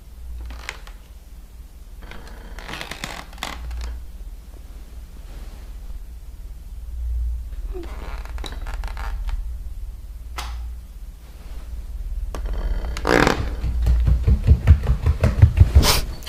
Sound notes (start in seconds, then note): 2.0 more creaking, louder; 7.4 more creaking; 10.3 light switch clicks off